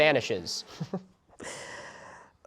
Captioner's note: giggles; inhale